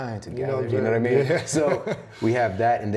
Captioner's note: laughs